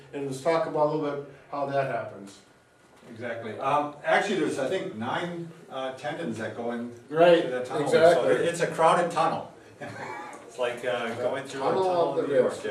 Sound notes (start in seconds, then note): 9.8 both laugh